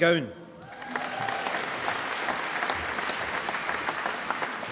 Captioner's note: applause